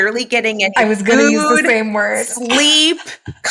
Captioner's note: laughs